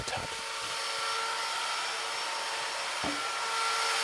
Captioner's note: machine whirring